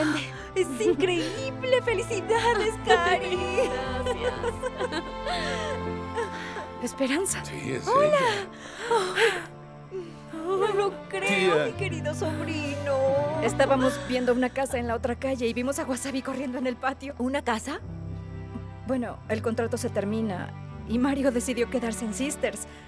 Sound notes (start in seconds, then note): 3.3 Esperanza ríe; 4.6 Caridad ríe; 8.8 Ambas exclaman